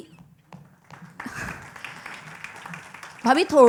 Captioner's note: applause